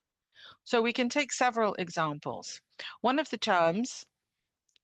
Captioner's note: speaking French